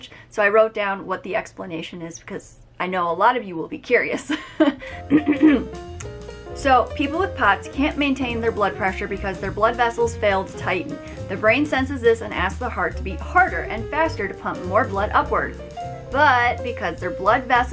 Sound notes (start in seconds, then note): 5.4 clears throat